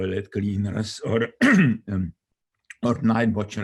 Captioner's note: throat clearing